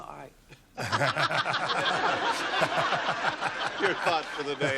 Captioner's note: laughter